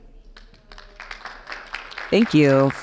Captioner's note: audience applauding